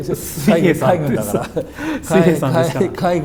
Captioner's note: laughs